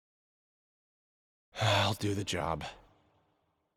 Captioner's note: sigh